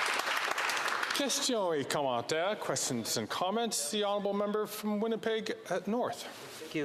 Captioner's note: some Applause